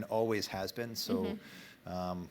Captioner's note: laughter